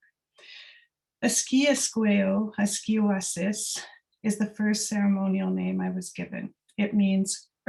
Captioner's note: non-english speech